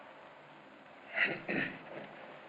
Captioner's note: clears throat